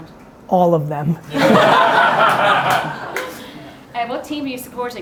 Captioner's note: audience laughing